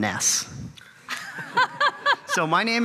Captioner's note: panelists laugh